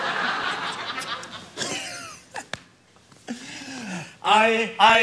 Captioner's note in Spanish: risas; cuchicheos; cantan